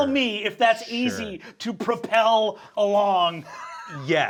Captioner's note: chuckles